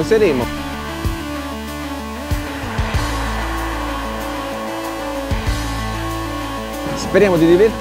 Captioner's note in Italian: Applauso